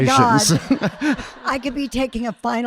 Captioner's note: audience laughing